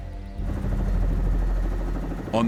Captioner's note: helicopter whirring